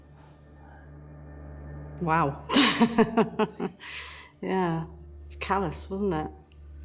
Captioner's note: laughs